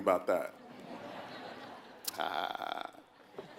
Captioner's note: laugh